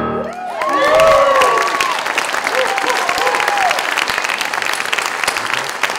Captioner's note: applause, boisterous cheers